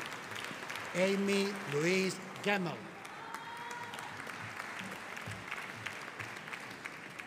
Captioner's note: audience applauding